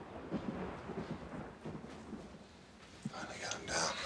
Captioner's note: thunder rumbling